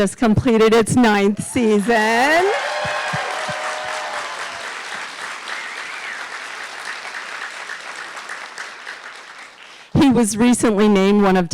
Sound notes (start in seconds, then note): 1.6 audience applauding